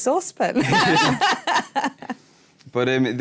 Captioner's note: laughter